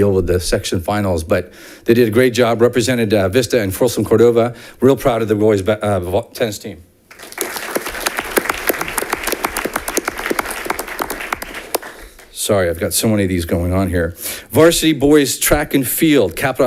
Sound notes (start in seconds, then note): 7.1 audience applauding